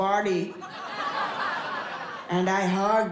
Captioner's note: audience laughs